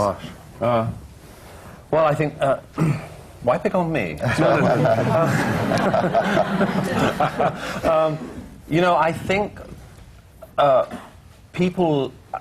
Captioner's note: laughter